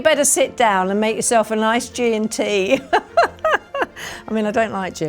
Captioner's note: laughs